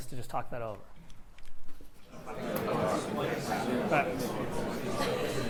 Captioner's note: chatter